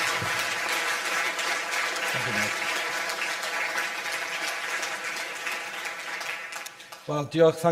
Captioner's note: audience applause